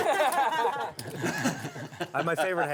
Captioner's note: laughter